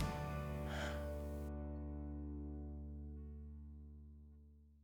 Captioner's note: breaths out